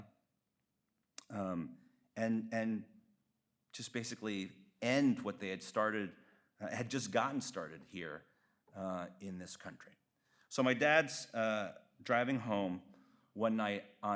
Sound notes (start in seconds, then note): none